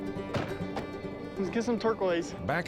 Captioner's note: truck doors close